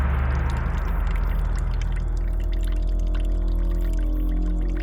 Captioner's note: dramatic musical score; water trickles